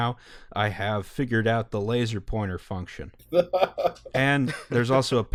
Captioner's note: laughter